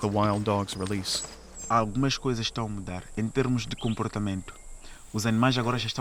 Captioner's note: speaking Portuguese